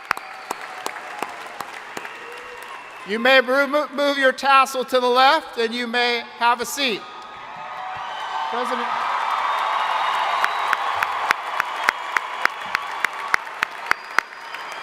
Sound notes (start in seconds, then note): 7.2 crowd cheering; 7.3 crowd applauding